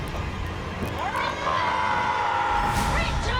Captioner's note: demonic cry